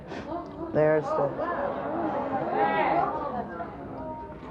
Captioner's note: audience gasps